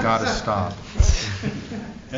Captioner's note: laughter